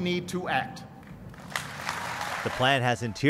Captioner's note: applause